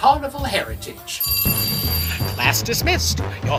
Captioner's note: school bell